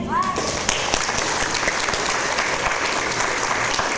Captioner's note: audience applause